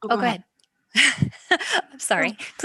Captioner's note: laughter